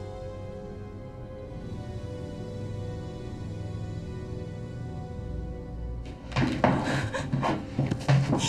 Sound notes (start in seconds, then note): 6.7 Diane gasps